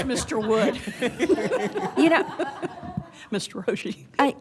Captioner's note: laughter